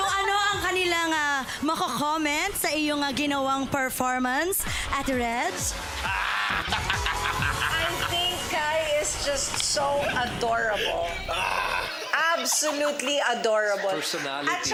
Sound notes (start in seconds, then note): 6.4 cackling